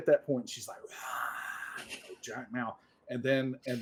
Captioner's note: whispers